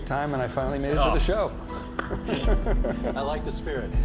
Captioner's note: laughs